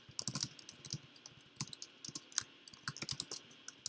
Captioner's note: keyboard clicks